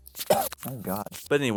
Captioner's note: choke; cough